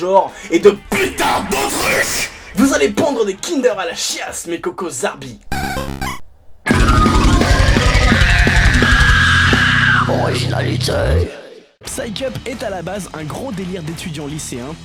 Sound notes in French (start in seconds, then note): 5.3 Radio Zarbi